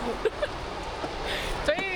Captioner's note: laughing